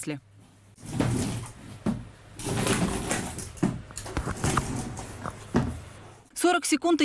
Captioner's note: sounds of walking, footsteps and walking walkers